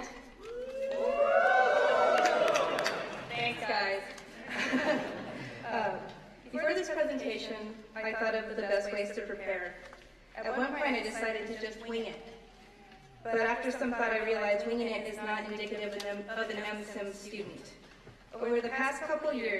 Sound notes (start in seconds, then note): 7.0 cheering